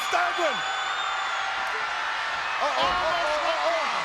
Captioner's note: audience cheers